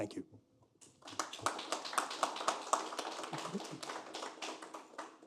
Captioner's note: applause